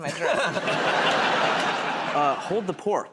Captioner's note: laughter